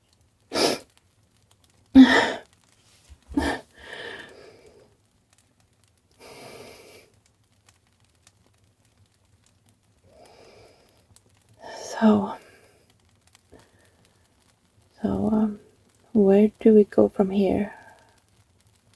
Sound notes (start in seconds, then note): 3.3 sniffles. Wipes the tears from her eyes